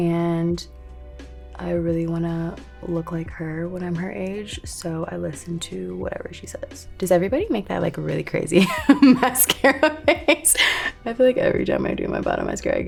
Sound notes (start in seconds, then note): 8.6 Lori laughing